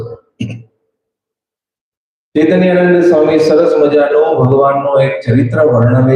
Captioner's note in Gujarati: ગળું સાફ કરે છે